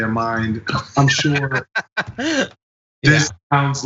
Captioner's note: laugh